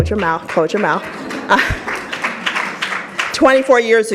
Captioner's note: audience laughs